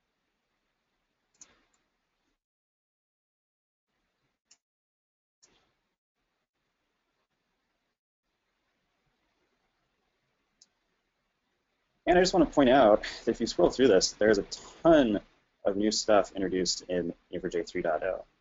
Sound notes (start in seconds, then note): 4.6 silence